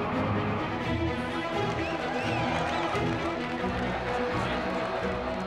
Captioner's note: cheering